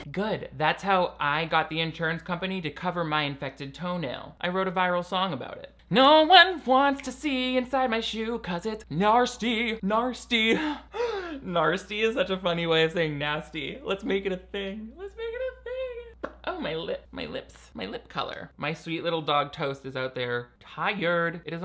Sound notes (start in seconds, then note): 10.8 laughing